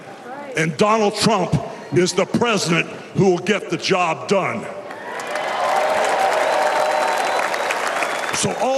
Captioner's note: applause